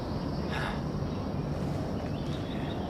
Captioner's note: birds chirping